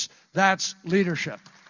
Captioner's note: applause